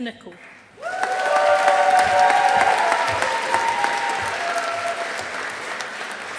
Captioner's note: audience applauding